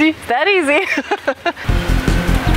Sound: laughs

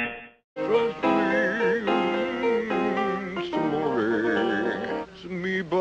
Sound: man humming

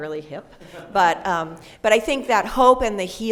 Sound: laughter

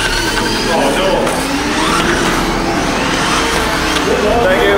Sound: tires squealing

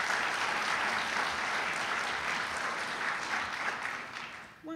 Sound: applauding

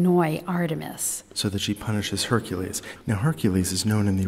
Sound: voiceover

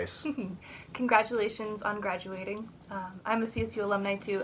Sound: laughing

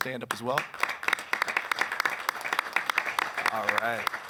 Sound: applause

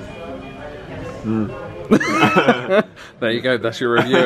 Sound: laughs

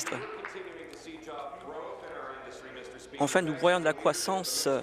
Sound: applause

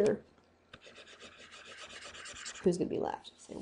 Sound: scribbling

